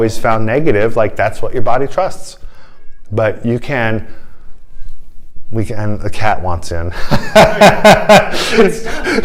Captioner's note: laughter